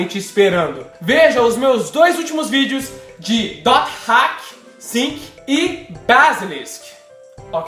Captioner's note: Portuguese